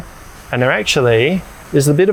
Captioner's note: fan buzzing